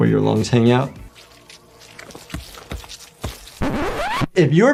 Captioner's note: flesh squelching; disk scratches